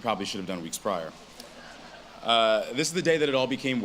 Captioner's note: audience laughs